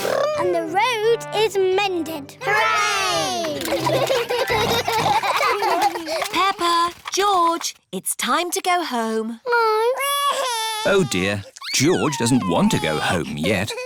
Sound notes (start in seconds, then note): 3.6 all laugh; 10.0 crying